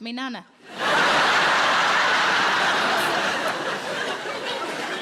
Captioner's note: audience laughs